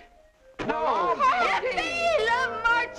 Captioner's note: everyone chattering